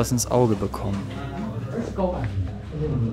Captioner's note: bubble of voices